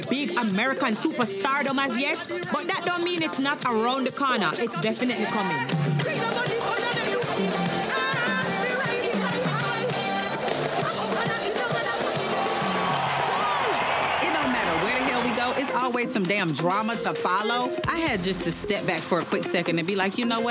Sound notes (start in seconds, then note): 6.0 dance hall music continues; 12.4 crowd cheering